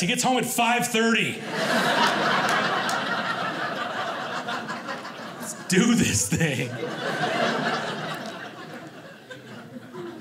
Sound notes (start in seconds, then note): 1.6 audience laughing; 7.3 audience laughing